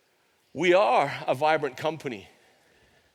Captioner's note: none